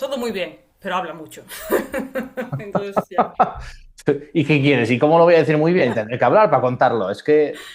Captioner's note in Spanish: risas